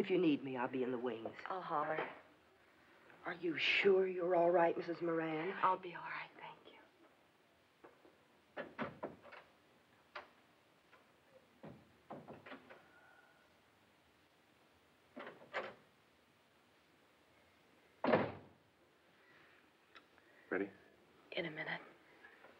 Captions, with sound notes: IF YOU NEED ME, I'LL BE IN THE WINGS. I'LL HOLLER. ARE YOU SURE YOU'RE ALL RIGHT, MRS. MORAN? I'LL BE ALL RIGHT. THANK YOU. [ Door Opens ] [ Door Closes ] [ Door Opens, Closes ] READY? IN A MINUTE.